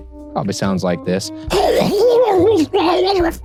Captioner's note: mumbles